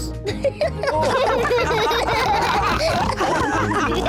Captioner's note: all giggle